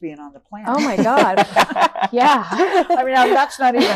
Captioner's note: all laughing